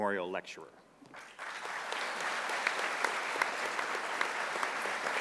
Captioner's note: audience applauding